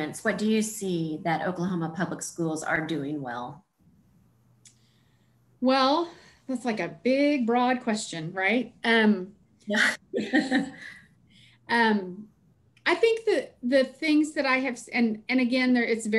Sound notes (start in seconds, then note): 9.7 laughs